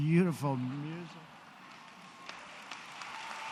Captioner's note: applause